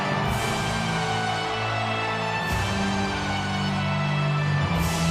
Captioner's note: audience continues cheering; ominous music continues